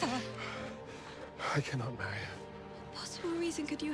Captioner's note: breathes heavily